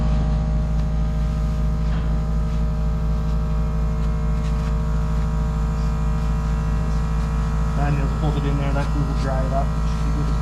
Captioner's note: motor whirring